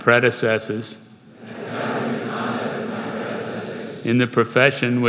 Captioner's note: crowd